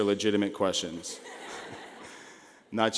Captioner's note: laughing